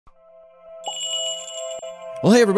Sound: magical jingle

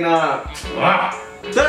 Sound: growl

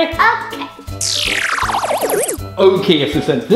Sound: electronic swish

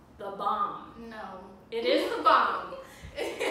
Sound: laugh

